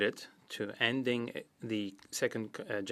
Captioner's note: speaking French